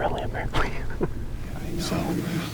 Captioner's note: laughing